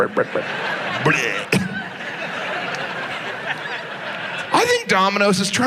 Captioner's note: audience laughs